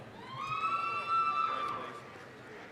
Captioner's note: applause, cheering